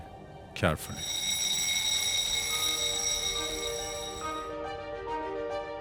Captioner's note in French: son d'un réveil qui sonne